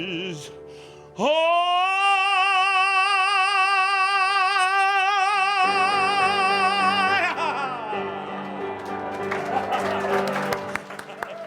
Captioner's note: audience applause